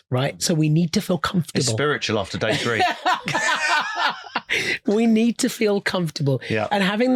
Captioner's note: laughing